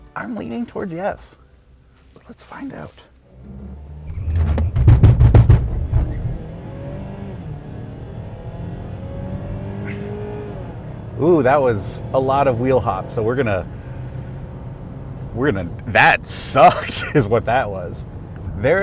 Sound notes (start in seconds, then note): 3.4 car thudding